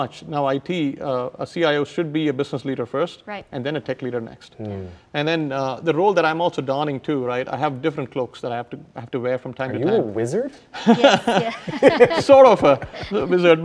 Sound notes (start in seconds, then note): 10.8 both laugh